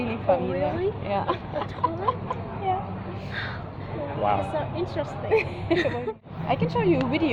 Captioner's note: laugh